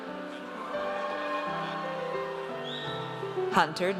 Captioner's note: audience cheers